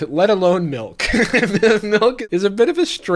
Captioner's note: chuckling